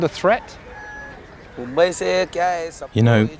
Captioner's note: non-english speech